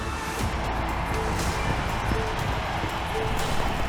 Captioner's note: crowd cheering